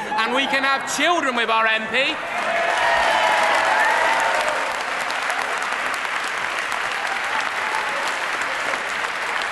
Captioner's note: background applause